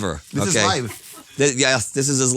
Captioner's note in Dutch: Lach van achter de schermen